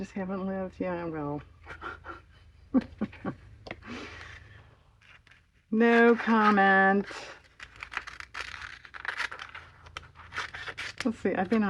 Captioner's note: laughs